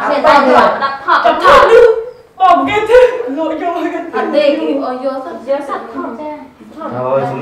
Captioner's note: chattering